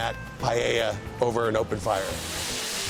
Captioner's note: sizzling